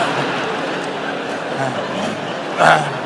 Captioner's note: laughter